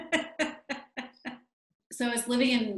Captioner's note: person laughing